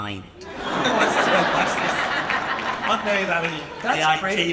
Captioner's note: audience laughing